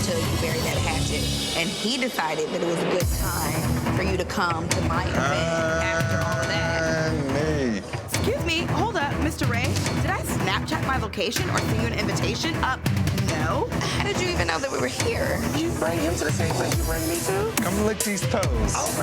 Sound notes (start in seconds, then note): 3.2 tense dramatic music; 13.0 tense dramatic music; 13.7 laughs